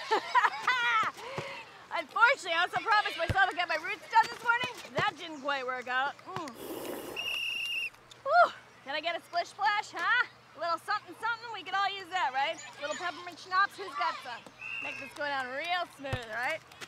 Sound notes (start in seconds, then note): 6.6 slurps; 7.1 whistle blows